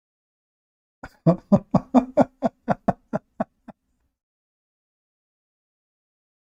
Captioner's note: Ketawa